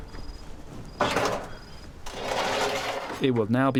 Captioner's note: metal scraping